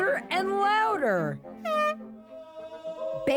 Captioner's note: honking